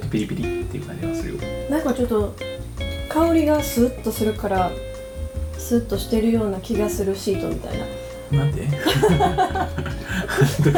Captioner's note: laughs